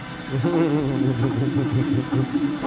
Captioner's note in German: lacht